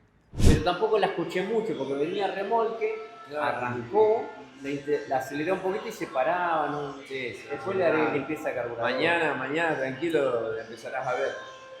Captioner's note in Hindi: स्पेनिश में बोल रहा हूं